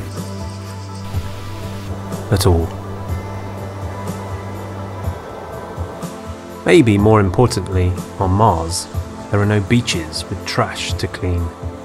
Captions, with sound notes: (water falling) at all. Maybe more importantly, on Mars, there are no beaches with trash to clean,